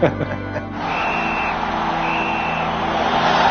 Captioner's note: both laugh; whistle blows